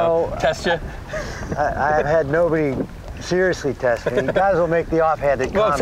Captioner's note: laughs